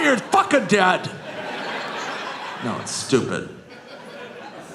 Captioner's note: audience laughing